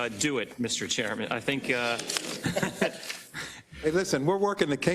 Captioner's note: laugh